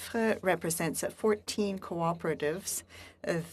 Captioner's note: speaking FRENCH